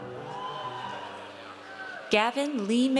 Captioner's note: audience cheers